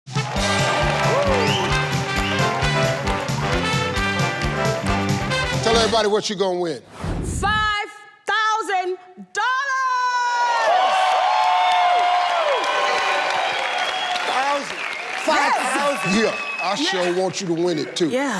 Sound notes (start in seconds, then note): 0.0 audience applauding; 0.1 upbeat music; 10.6 audience applauding